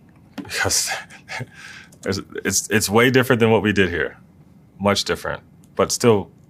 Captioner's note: laugh